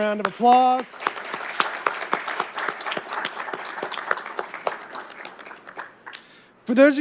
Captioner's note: applause